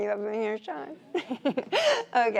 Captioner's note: laughs